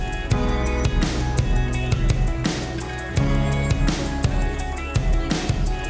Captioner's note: crowd noise